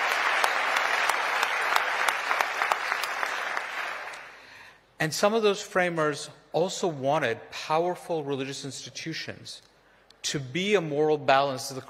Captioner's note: applause